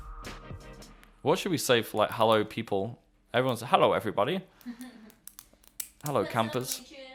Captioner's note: laughter